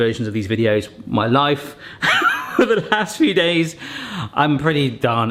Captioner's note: laughs